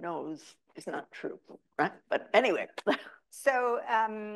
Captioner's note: chuckles